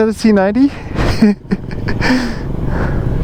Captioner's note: laughing